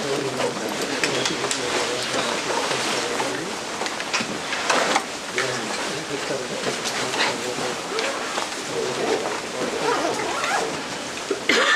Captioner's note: background chatter